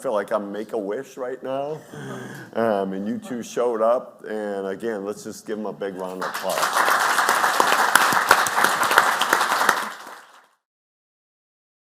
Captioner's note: clapping